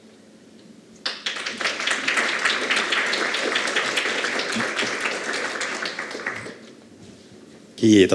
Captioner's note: Aplodeja